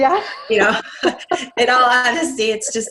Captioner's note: laughs